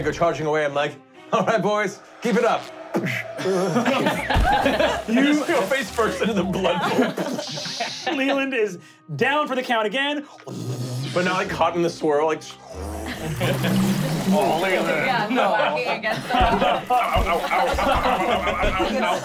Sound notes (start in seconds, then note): 3.4 splashes; 4.2 thuds; 10.7 wooshing; 14.8 swishing